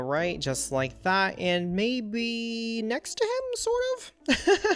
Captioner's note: laughs